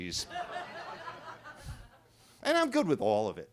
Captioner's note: attendees laughing